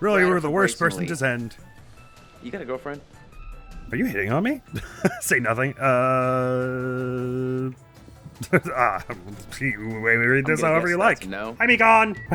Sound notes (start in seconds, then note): 8.2 giggles